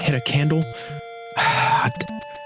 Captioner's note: sigh